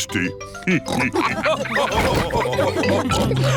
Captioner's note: all laugh